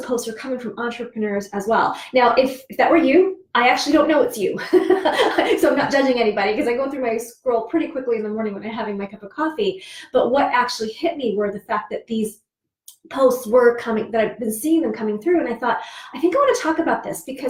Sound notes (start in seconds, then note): 4.6 laughs